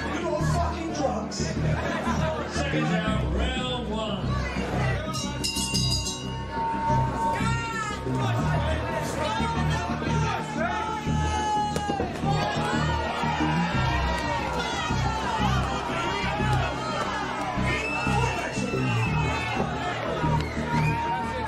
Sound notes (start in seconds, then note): 5.1 bell ringing; 12.6 crowd cheering